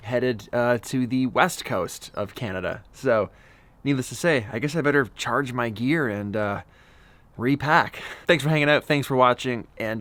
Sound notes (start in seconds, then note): none